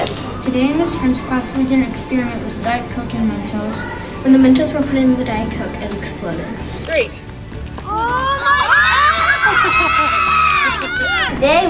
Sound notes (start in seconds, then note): 7.8 kids yelling and cheering; 9.6 laughing